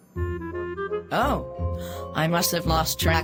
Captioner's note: gasps